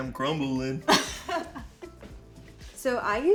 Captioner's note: both laugh